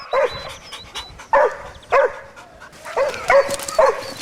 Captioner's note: dogs barking